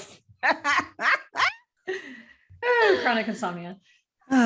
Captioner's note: laughter